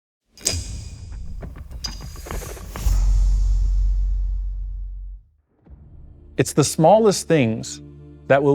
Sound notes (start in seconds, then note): 0.4 logo clinking; 0.4 intriguing dramatic music